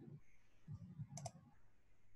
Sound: mouse click

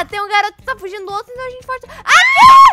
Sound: screaming; screams

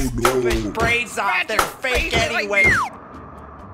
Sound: sound of Leia and Luke brawling

